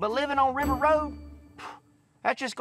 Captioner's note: sighs